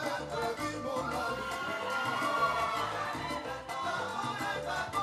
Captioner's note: audience cheering